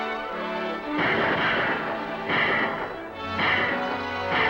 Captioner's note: guns fire